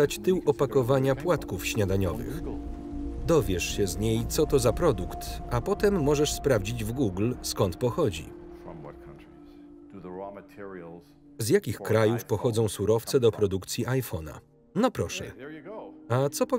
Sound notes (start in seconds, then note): 13.9 phone beeps